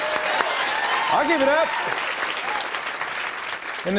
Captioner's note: cheers and applause